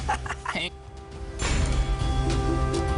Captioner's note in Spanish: Risas